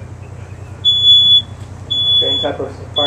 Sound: smoke alarm beeps

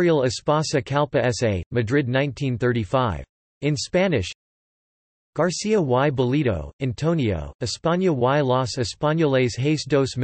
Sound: in Spanish

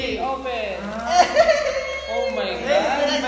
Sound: laughs

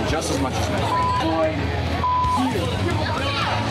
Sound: beep

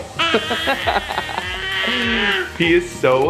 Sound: laughs; gurgles

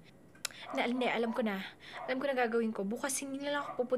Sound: clicks tongue

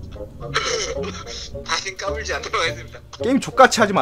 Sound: laughing

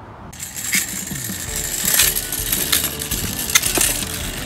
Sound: engine-like noise

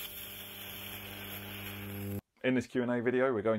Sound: electricity hissing; electricity buzzing

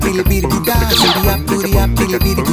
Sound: laser shooting

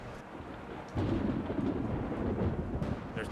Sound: thunder crashes

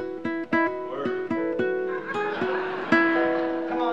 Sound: laughter

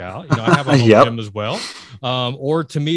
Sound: laughs

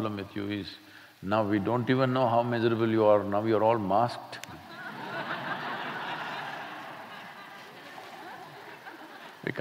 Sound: laughter

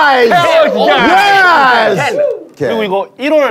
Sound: sound of cheering

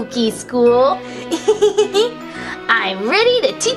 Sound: laughs

